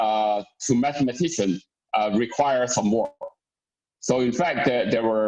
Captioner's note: murmurs